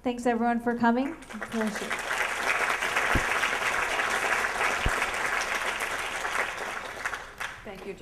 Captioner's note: applause